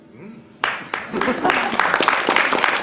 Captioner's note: clapping